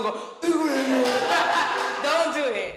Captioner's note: laughing